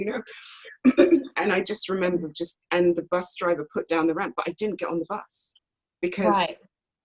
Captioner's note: clears throat